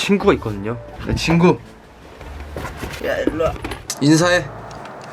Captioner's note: bumpy road